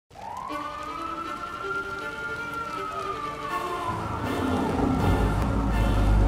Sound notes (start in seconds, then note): 0.1 sirens and intense music